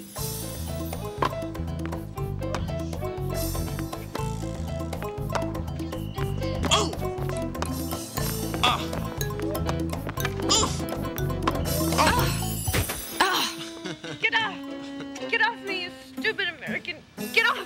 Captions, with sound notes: [Latin music] [grunting] Get off! Get off me, you stupid American. Get off!